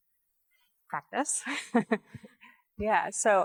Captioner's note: laughs